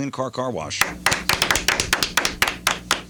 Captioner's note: clapping